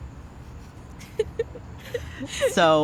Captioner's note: laughing